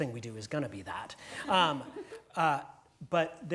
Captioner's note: laugh